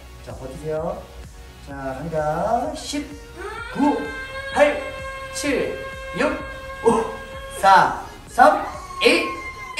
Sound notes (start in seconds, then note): 3.4 Jiny's emergency siren ringing